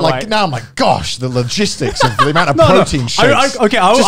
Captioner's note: murmurs